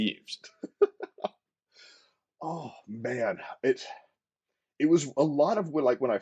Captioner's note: laughter